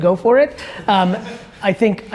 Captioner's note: audience laughs